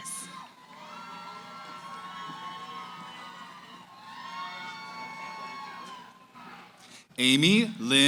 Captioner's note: cheering